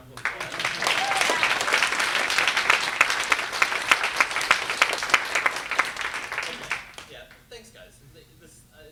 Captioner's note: applause